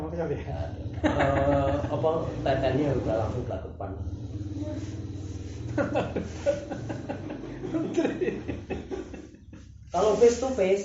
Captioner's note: laughs